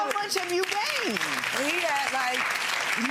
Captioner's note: audience applauding